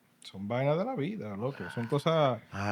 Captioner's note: speaking Spanish